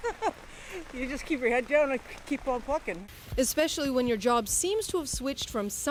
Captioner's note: laughter